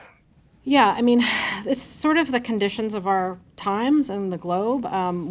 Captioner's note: sighs